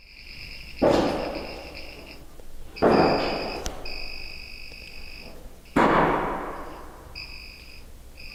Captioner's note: strange knocking